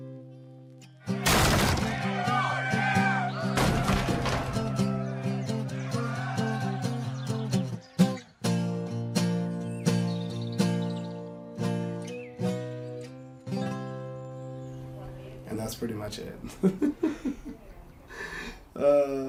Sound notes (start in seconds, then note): 1.0 people cheering; 1.3 door bangs; 5.7 birds chirping; 16.5 laughs